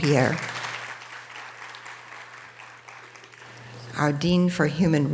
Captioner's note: audience applause